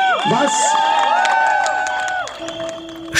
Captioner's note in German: Jubel